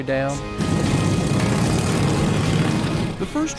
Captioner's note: engines revving